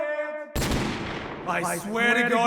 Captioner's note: gunshot